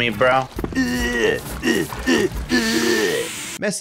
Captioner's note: grunting